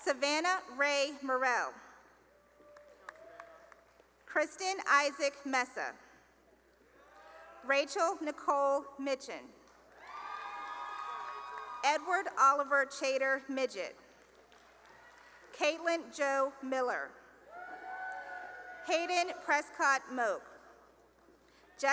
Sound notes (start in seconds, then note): 2.6 cheering and applause; 6.6 cheering; 9.9 cheering; 13.9 cheering and applause; 17.4 cheering